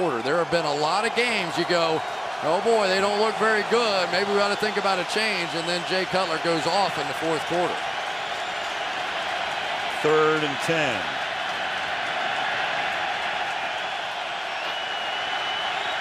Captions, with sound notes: And then Jay Cutler goes off in the fourth quarter. Third and 10. [crowd cheering]